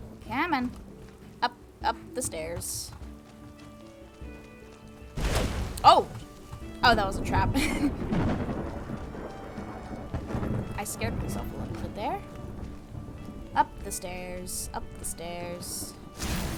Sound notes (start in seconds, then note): 7.4 laughs